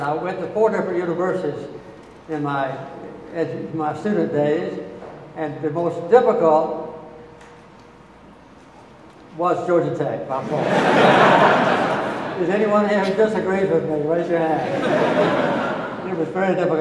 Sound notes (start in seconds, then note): 10.4 audience laughing